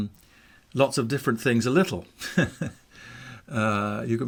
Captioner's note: chuckles